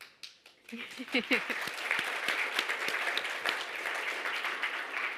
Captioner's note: audience applauding